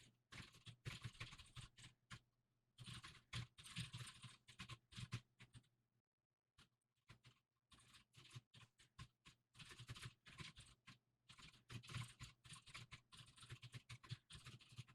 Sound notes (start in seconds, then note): 3.0 typing sounds